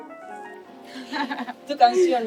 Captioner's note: soft Music Playing; laughing